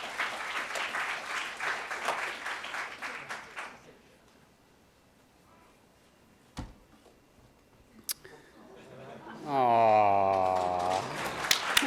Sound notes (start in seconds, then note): 0.0 applause